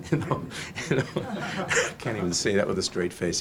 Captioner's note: audience laughs; laughs merrily